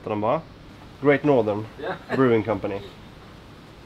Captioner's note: sound of approval from dad